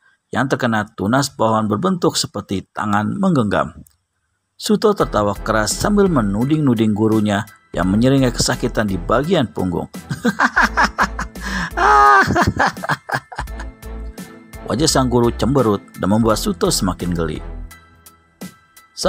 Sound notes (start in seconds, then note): 10.1 laughs